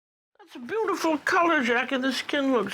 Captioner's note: voiceover